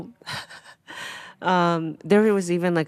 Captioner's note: Atsuko laughing